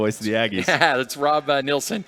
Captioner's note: laughter